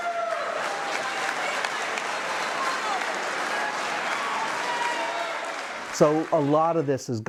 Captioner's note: cheers and applause